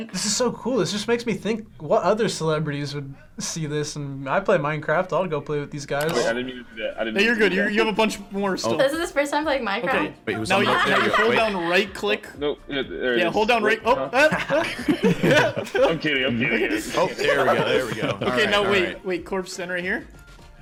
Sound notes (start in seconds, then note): 10.6 laughs; 14.2 laughs